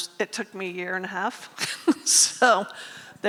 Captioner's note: laughs